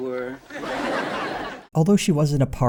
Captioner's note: audience laughter